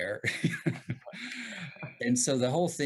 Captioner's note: chuckle